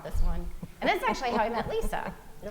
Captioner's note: laughing